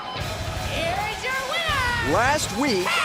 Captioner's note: bell ringing